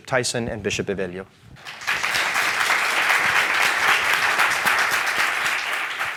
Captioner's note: audience and panelists applaud